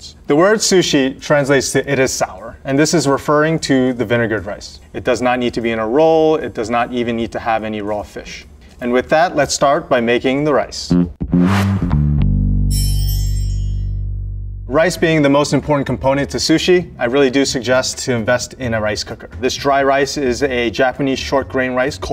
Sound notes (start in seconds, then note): 10.9 jaunty music; 12.7 text chimes